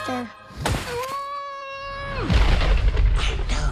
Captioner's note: child shouts; thunder rumbles